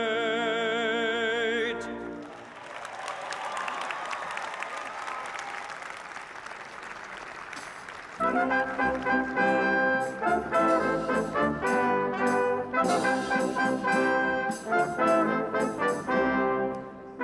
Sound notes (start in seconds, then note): 5.1 applause